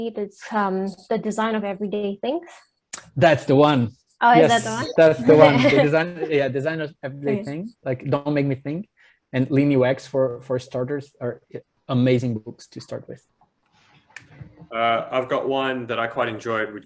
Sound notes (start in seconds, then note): 4.4 laughs